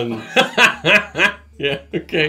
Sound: laughing

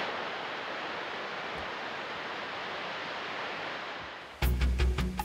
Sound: water falls

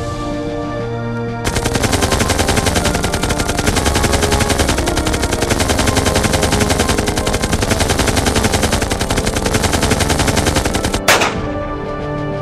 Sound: rapid gunfire; pistol shot

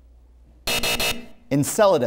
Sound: buzzer sounds

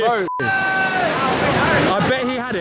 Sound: waves crashing

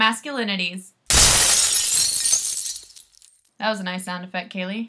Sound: glass shattering

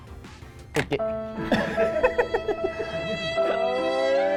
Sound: laugh

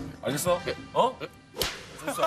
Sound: clap!

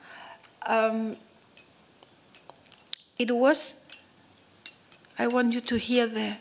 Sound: light clicking

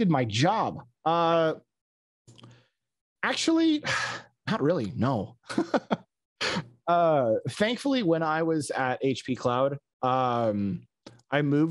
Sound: laughs

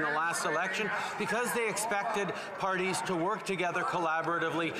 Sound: applause

